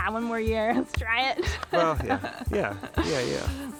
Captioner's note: chuckles